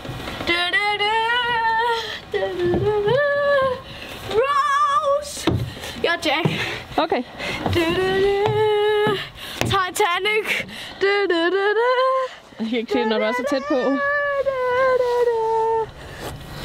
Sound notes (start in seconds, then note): 0.4 hums; 7.6 humming